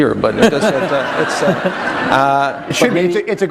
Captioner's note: laughter